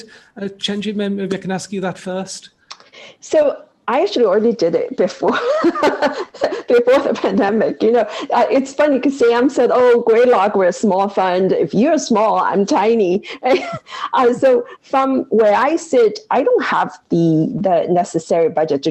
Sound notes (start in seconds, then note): 5.2 laughs